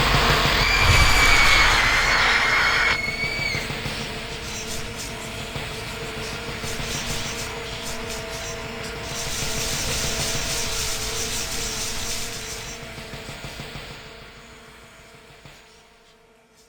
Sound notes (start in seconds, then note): 0.5 girl screams; 0.7 sinister music